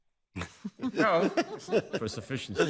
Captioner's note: justices chuckling